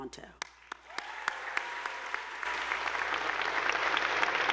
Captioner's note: attendees applauding